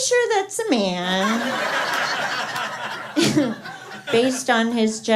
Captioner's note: laughter